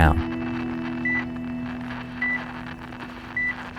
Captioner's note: beeping